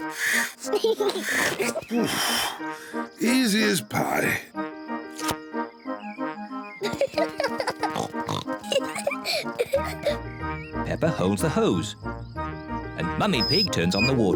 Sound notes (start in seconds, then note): 4.2 giggles excitedly; 12.1 water glugging